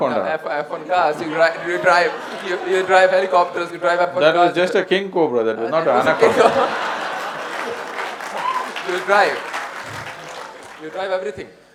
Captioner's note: laughter/Applause